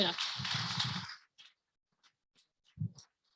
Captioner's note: applause